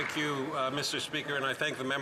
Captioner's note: some Applause